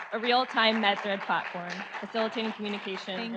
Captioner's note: audience applauds